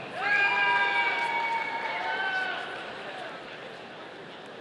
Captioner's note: audience cheering